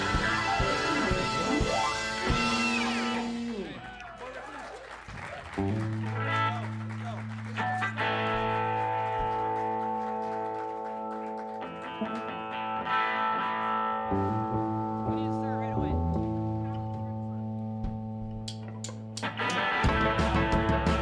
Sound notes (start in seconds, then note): 0.2 ending note fades; 3.8 cheers and applause; 12.0 note strummed on guitar; 18.4 tic, tic, tic of drumsticks